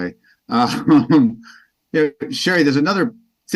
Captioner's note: chuckles